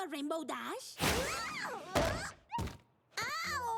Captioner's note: whoosh